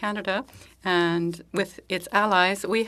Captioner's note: speaking French